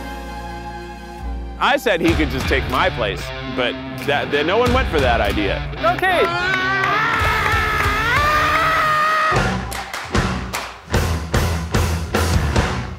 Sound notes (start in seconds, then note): 7.8 screaming; 9.6 funky, upbeat music